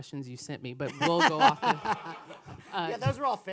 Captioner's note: laughs